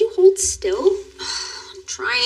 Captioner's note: sighshs